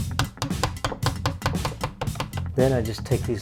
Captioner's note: hammer bangs